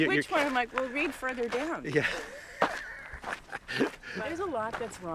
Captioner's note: laughs